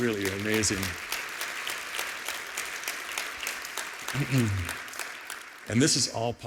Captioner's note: applause